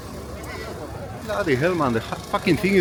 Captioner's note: crowd Chattering